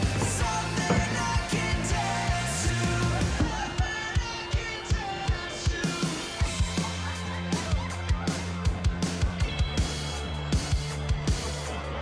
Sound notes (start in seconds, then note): 6.4 lively upbeat music; 6.4 students chattering